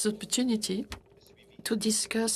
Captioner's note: speaking French